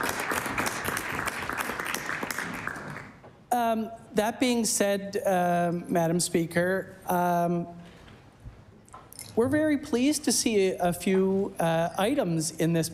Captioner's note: applause